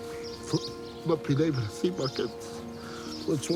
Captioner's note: sobs